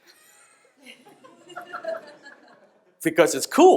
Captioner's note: audience laughs